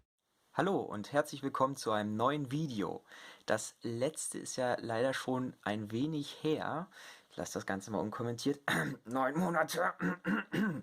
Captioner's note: cough, cough